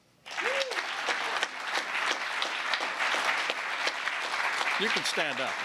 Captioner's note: applause